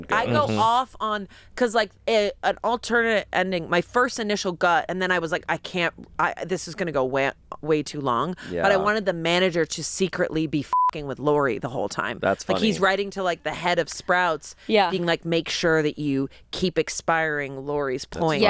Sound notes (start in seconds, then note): 10.7 beep